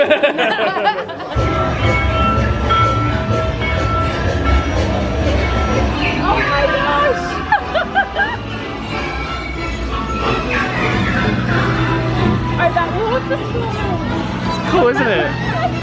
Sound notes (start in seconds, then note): 0.0 laughing; 1.3 bell ringing; 1.6 train chugging; 7.0 laughs; 9.1 upbeat cheerful music